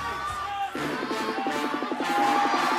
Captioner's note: crowd cheering